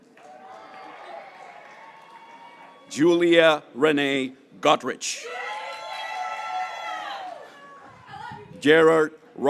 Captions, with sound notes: Cassidy Sofia Donohue, (graduates cheering) John Kevin Donohue III,